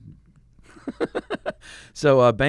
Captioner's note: laughing